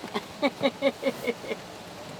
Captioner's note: laughs